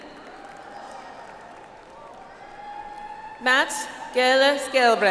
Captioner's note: audience applauds